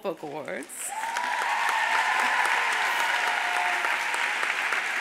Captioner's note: audience applauds